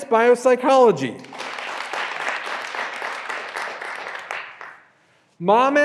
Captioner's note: graduands applauding